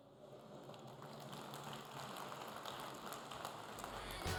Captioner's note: audience applauding